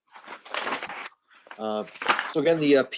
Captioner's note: papers rustling